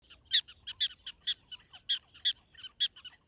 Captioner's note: prairie dogs squeaking